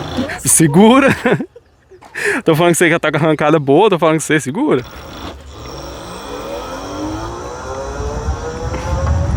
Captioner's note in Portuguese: risadas